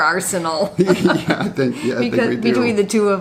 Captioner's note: laughs